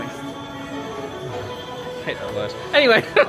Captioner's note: laughs; shudders